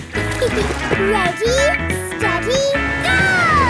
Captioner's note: giggles